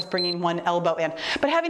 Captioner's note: timer beeps